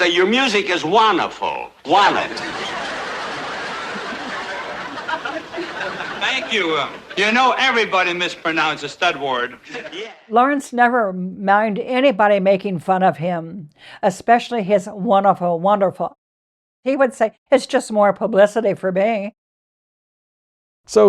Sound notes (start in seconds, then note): 1.9 audience laughter